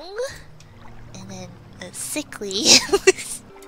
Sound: laughs

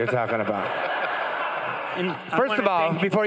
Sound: crowd laughing

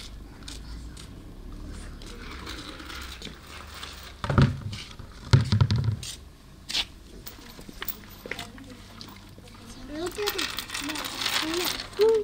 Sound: nature Sound

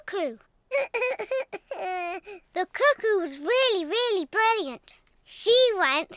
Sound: sobs

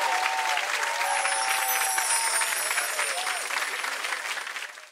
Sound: chimes ring

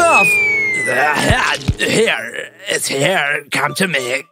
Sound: hum of a big crowd of zombies; zombie sounds

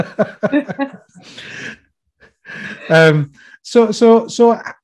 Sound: both laughing

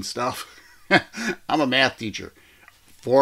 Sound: host chuckling

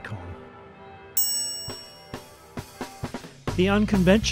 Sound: dinging

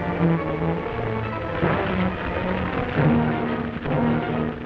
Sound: fire crackling

